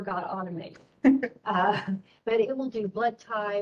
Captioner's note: giggling